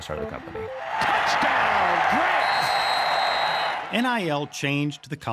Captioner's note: audience cheers